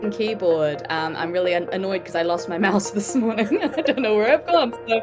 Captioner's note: chuckles